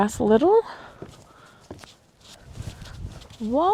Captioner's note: footsteps